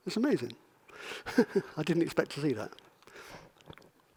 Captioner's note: laughs